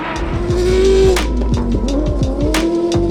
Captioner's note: car engine revving